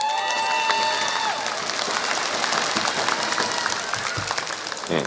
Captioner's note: applause